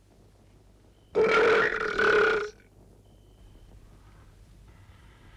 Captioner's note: Torente belches